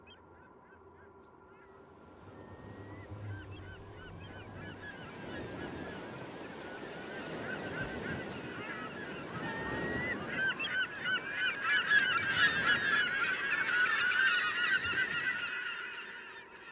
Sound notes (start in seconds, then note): 0.2 gulls squawking; 5.0 waves crashing